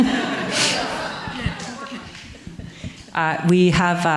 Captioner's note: audience laughing